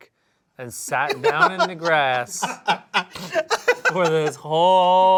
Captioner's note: laughs